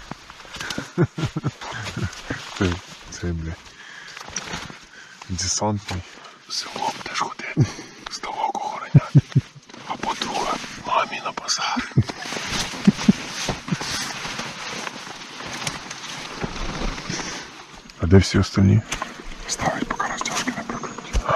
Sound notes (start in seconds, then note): 0.6 laughter; 13.4 laughter; 14.3 fabric rustling sound; 15.3 steps in the woods sound